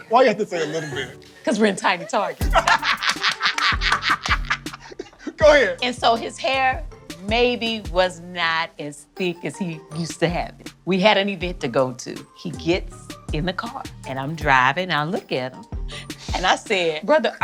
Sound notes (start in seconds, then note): 1.9 both laugh